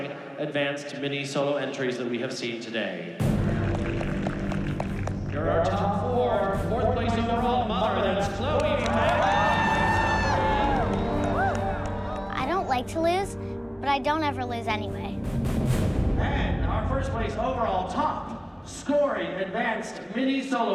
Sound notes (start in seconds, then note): 10.9 applause